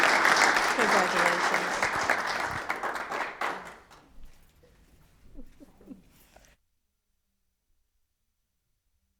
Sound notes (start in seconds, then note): 0.0 attendees applauding; 2.1 attendees applauding